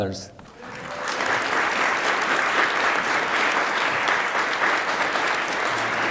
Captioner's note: attendees applaud